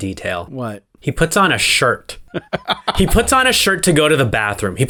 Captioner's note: laugh